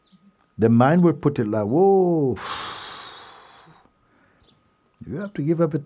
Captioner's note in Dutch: blaast krachtig uit